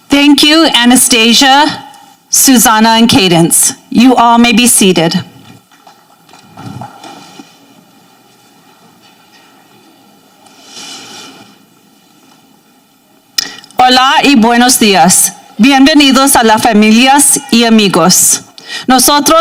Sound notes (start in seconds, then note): 14.0 speaking in Spanish